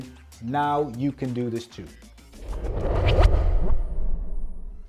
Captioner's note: air swooshing